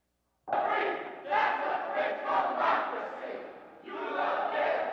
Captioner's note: crowd chant